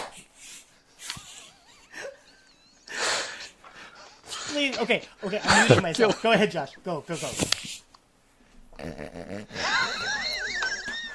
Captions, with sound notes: [More laughing] No, no, it's great! [Laughing so hard we are crying now] [Laughing more, trying to get under control] Ok, ok, I'm muting myself. Okay, go ahead Josh. [Laughing so hard he is snorting] [Breathless laughing, pounding the table] Josh? [Laughing] He walked